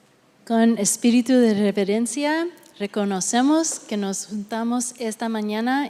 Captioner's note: speaking Spanish